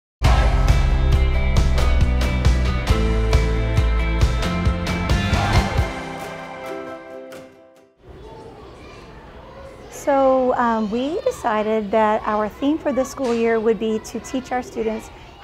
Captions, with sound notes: (inspiring music) (children talking in distance) - So we decided that our theme for this school year would be to teach our students